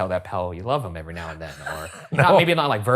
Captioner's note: laughing